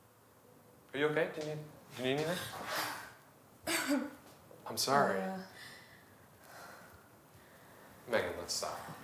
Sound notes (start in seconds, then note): 3.6 cough